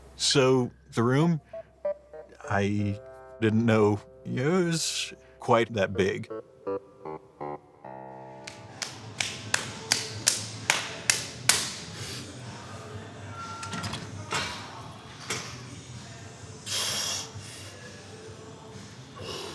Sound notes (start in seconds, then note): 8.8 slapping; 17.0 grunting